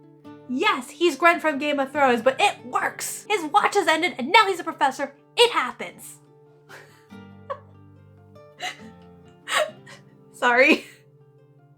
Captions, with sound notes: Yes he's Grenn from Game of Thones but it works. His watch has ended, and now he's a professor, it happens. (laughing) Sorry.